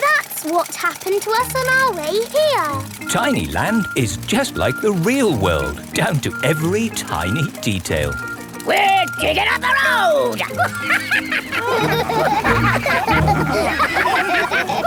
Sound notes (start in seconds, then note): 8.6 chuckles; 12.3 all laugh